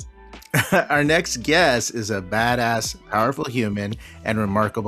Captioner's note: chuckles